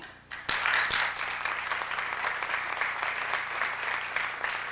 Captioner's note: applause